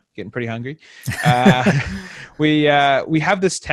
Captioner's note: laughs